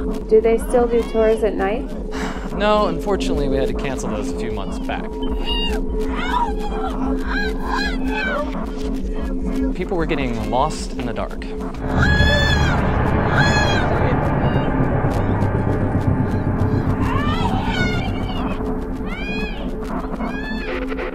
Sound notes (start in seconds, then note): 2.1 sighs; 5.1 backmasked cries for help; 12.0 distorted yelling continues